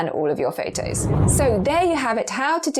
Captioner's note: video effect whooshes